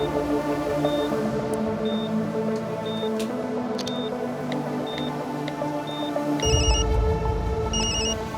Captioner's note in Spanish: Suena el celular